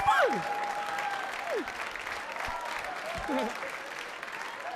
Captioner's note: audience laughing